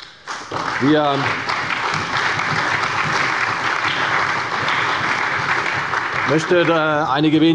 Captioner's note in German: Beifall bei Abgeordneten der CDU, der SPD und des BÜNDNISSES 90/DIE GRÜNEN